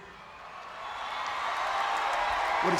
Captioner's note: crowd cheering